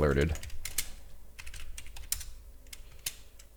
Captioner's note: typing